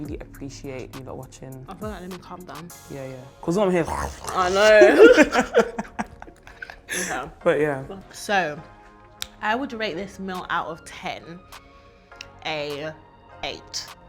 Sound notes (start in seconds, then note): 3.5 makes eating noise